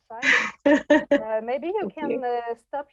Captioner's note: laughing